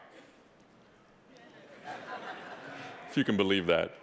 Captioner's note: audience laughing